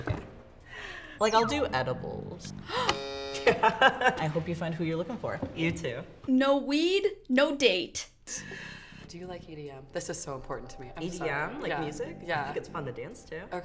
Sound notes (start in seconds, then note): 2.8 buzzer sounding; 3.3 giggling